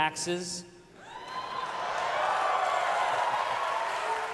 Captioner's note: audience cheers